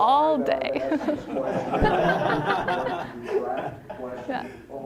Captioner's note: all laughing